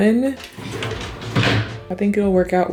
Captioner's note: drawer shuts